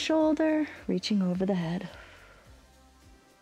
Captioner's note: exhales